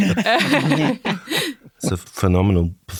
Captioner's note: laughing continues